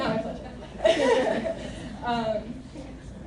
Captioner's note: laughter